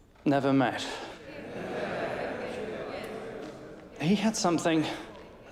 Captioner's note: crowd agreeing